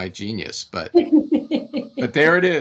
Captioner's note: laughing